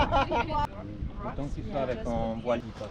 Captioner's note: having a conversation in French